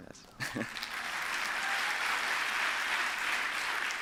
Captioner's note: applause